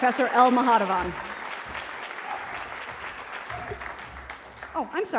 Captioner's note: applause